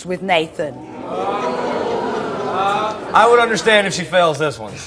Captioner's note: audience exclaims in disbelief